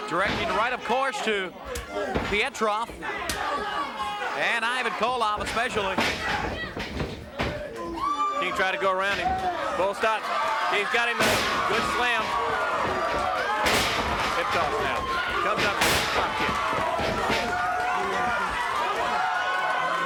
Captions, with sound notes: Directed right up course to Petrov. (blows thudding) And Ivan Koloff especially. King tried to go around him. Bull's got... He's got him, good slam. (body thudding)